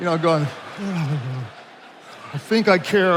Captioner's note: attendees laughing